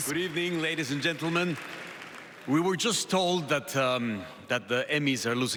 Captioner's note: applause